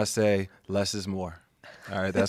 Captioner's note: laughs